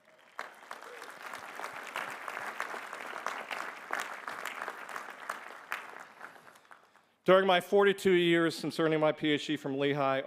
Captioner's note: applause